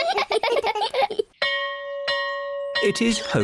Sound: all giggle; bell rings

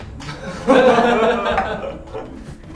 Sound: people laugh

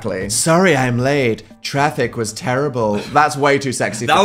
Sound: putting on voice

